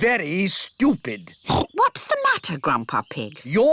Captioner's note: oinks